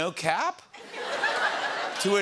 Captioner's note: laughter